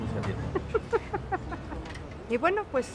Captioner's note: laughs